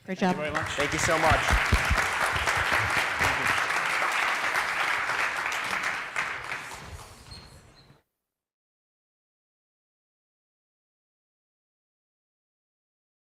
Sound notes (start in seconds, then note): 0.3 applause